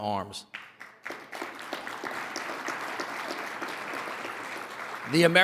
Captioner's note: audience applauding